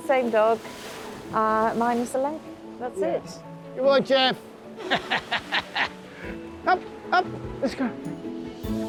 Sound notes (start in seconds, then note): 4.8 laughs